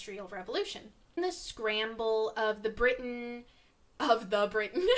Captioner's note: giggle